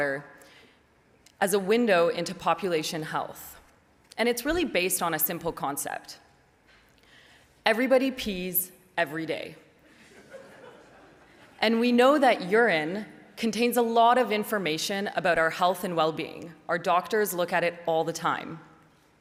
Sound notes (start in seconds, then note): 10.0 audience laughs